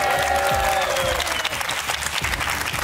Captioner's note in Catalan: aplaudiments